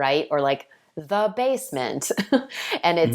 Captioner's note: laughing